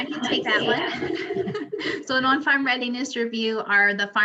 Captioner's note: laughs